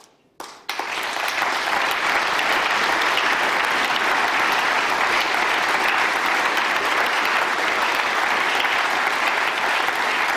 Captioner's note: applause